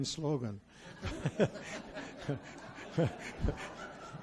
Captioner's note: audience laughs